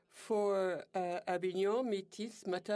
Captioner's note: speaking French